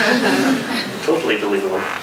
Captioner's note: crowd laughs